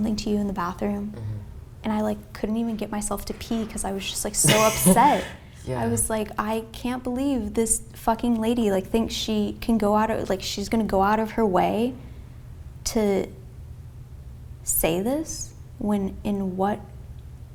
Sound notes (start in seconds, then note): 4.3 laughs